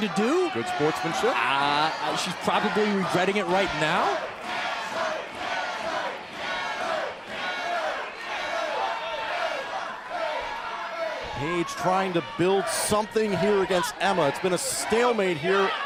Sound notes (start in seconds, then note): 2.2 crowd cheering